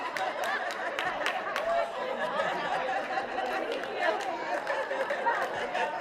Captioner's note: laughter